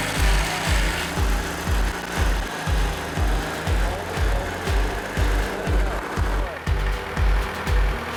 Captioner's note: sound of motor starting; sound of motor running, music